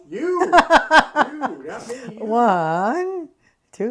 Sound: laughs

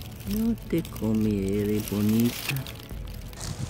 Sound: Spanish

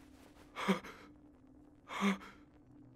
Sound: none

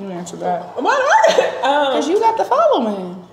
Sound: chuckling

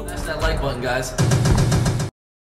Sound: logo bangs

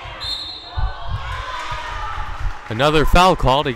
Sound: whistle blowing

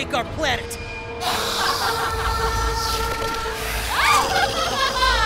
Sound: cackling

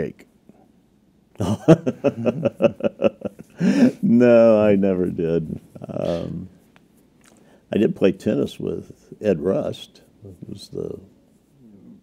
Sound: laughter

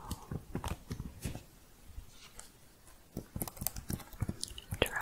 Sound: tapping and typing

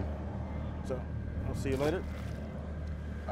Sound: fish splashing

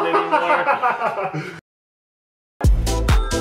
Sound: laughing; laughs

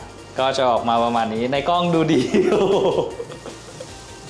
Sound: laugh

